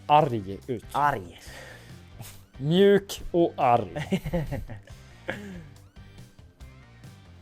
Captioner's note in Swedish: skratt